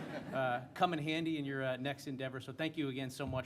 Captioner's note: laughter